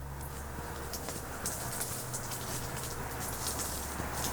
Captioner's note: car noises